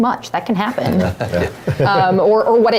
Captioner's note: laugh